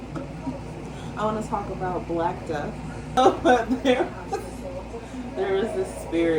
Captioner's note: laughing